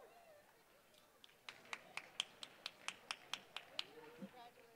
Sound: applause

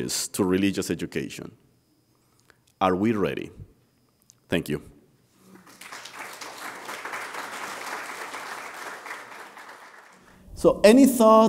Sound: applause

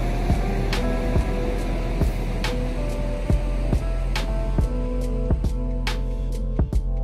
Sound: ambient beach noise fades out to nothing as music continues

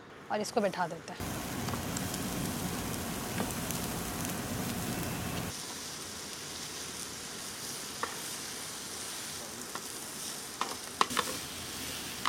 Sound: asmr cooking

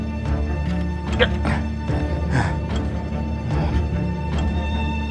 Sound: D grunts

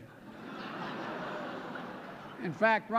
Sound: laughter

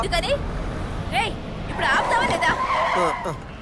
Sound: brakes squeal

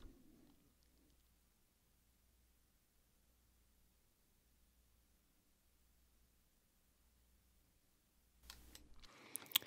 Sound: silence

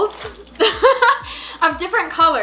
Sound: laughs

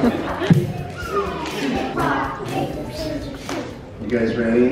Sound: crowd playing rock, paper, scissors

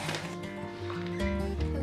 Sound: bag rattling

